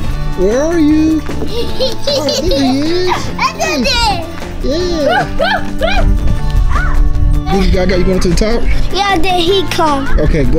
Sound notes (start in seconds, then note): 1.4 baby laughing; 5.6 shouting in background